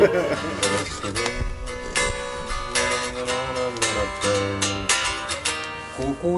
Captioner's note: humming